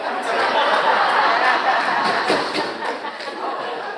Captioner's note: audience laughs